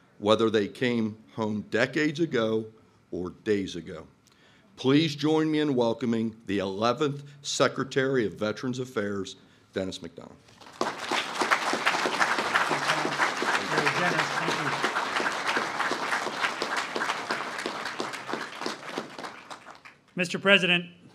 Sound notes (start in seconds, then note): 10.9 applasue